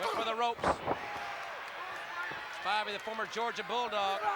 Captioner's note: applause